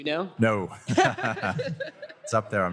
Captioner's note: laughter